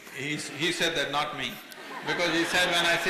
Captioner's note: laughter